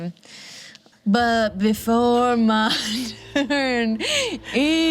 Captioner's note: laughs